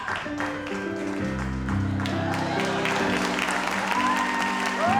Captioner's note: audience applauds